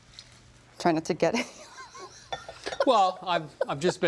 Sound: laughs

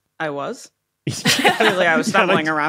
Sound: laugh

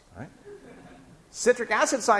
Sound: laughing

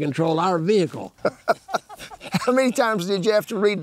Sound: laughing

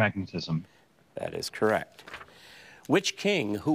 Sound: paper crinkling

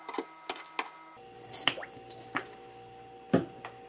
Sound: lemon juice splash!

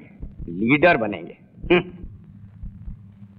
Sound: scoffs

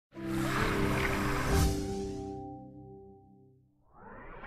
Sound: ink sloshing as digital piano music plays

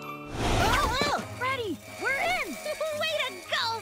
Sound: alarm blaring

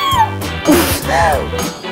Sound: laughing

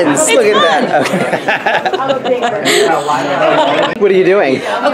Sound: laughs

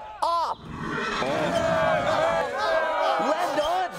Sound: crowd cheering

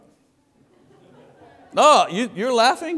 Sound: congregation laughing

